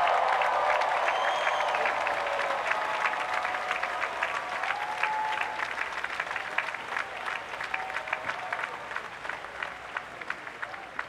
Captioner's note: applause